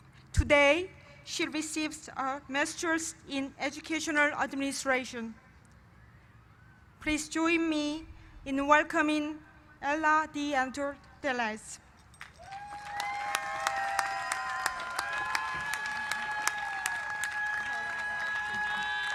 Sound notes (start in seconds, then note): 12.2 cheers and applause